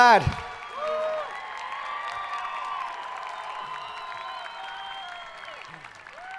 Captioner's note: hands clapping; people cheering